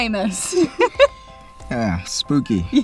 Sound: laughter

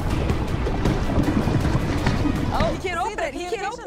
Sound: thudding

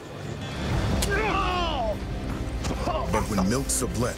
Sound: tense music; milt stabbed, milt groans

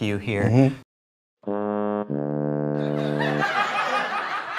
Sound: blooper sound; laughing

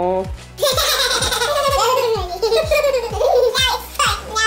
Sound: laughter

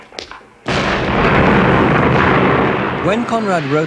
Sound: explosion

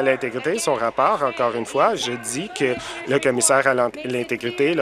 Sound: applause

